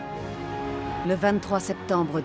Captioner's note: crowd cheering